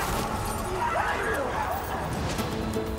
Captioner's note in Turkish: Çığlık sesleri